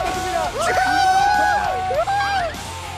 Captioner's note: hurray